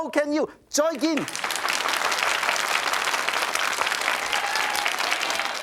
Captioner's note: audience claps